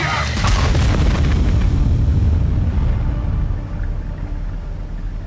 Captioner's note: explosion; eerie music